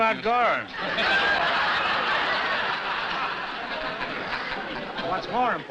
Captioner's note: laughter